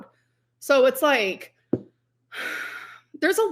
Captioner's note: sighs